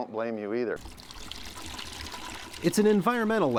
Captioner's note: sound of water pouring